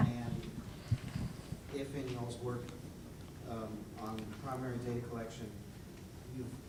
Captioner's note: voiceover